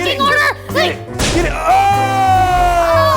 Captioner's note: bang